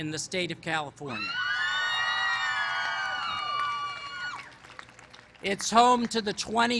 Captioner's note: cheering